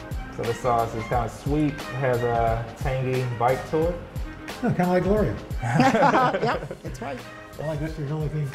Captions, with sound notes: This sauce is kind of sweet. Has a tangy bite to it. - Kind of like Gloria. (laughter) - Yep! That's right.